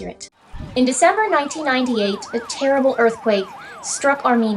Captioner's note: ongoing siren sounds